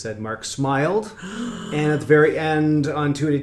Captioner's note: gasps